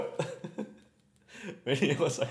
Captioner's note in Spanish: risas